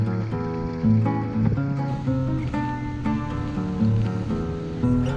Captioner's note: faint boat engine